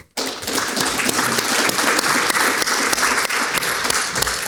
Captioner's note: audience clapping